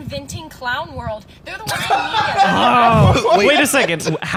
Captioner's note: laughing